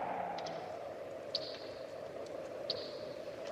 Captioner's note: wind blows